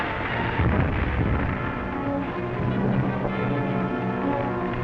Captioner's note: explosion booms